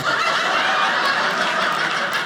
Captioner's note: audience laughing